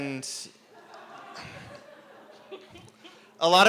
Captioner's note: laughter